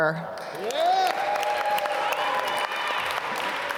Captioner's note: applause